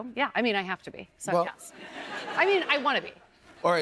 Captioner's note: laughter